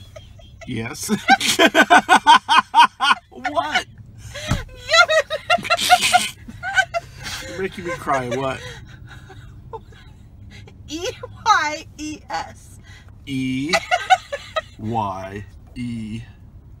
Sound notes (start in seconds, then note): 0.0 laughter; 8.8 laughter dies down; 13.6 Palutena laughs